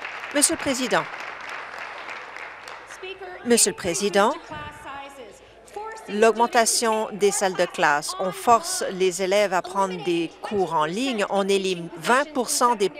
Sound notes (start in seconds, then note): 3.2 some Applause